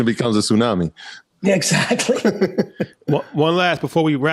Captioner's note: laughs